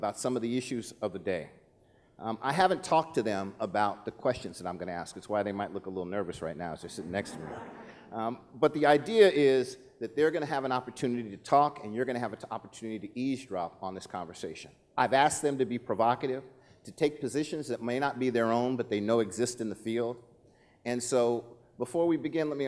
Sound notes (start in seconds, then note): 7.0 laughing